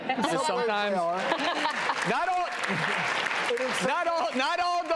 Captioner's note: audience applauding